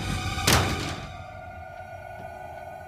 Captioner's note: suspenseful music; crate clacks on floor